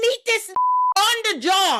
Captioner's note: beep